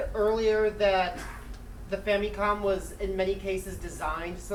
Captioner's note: coughing